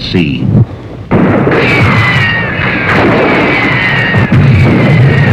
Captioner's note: bullets whizzing